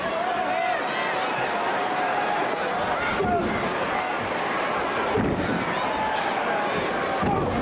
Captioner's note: crowd chattering; punches thudding